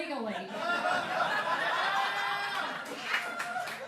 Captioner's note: laughing; audience applause